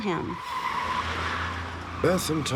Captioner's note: tires screech